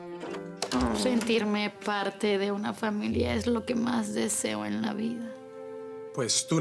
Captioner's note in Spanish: Sonido al abrir la puerta